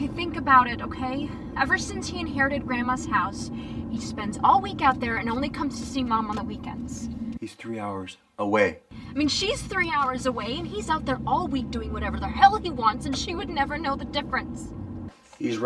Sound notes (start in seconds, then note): none